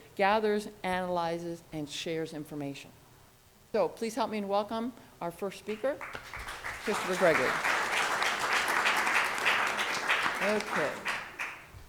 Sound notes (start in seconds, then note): 8.5 audience applauds